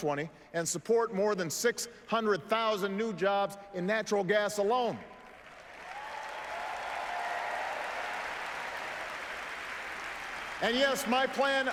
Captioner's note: applause